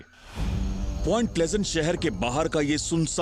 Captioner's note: narrating